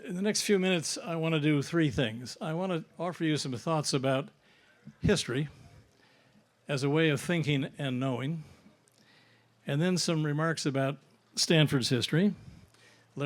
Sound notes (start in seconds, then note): none